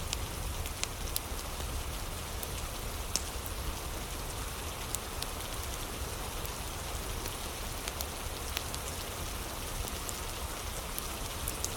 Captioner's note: fire crackling; fire crackling